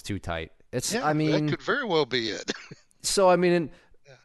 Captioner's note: laughs